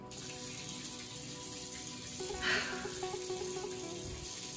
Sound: water running

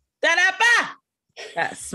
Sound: exclaims

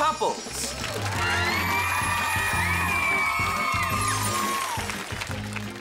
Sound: cheering

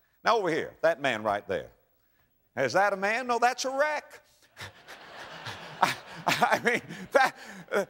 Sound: audience laughter

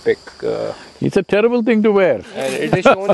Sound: laughs

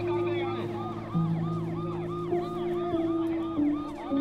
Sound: siren wailing

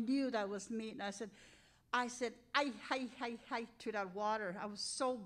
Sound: speaking in Cree

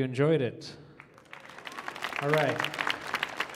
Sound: audience applauding

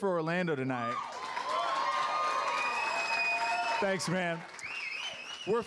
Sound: applause and cheers

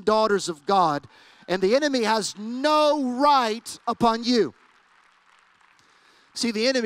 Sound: applause

